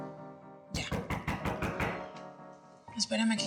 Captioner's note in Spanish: Toques en la puerta